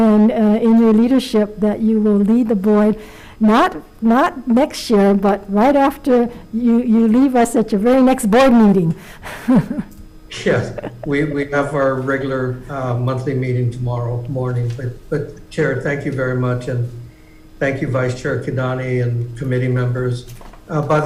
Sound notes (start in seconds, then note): 10.3 laughs